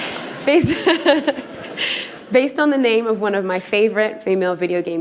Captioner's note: laughter